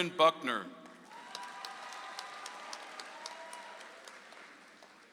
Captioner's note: audience applauds